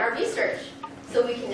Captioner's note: students talking among themselves